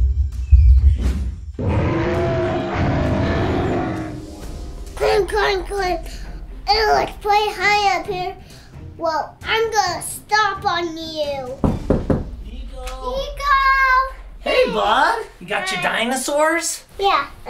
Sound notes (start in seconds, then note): 0.2 feet thudding; 1.6 dinosaur roaring; 11.6 fist knocking